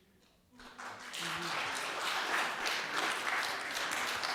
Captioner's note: audience applause